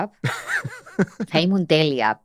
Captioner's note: he laughs